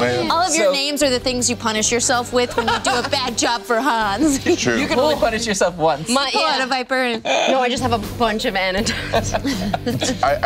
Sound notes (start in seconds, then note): 8.0 voice is muffled; 8.8 laughing